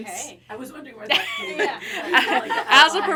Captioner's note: everyone laughing